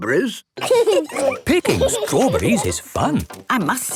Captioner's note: laughing